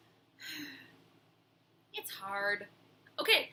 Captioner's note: sighs